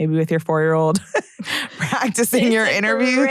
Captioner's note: laughs